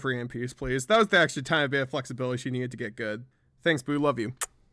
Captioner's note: kiss